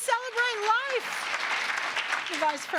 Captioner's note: applause